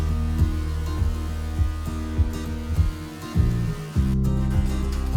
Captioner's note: planer buzzing